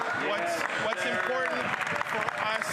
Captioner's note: some Applause